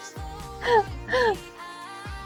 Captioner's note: laughing